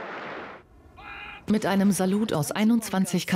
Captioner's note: cannons booming